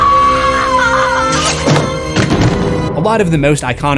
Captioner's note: screams